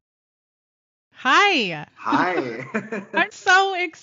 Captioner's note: giggling